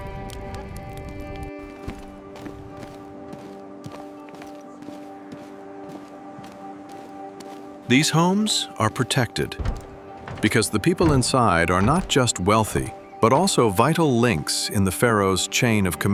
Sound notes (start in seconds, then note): 0.1 instrumental music plays; 6.4 fire crackles; 7.3 footsteps